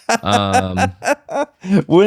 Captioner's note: laughter